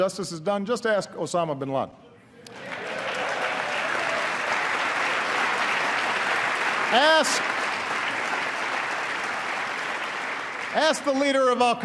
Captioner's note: applause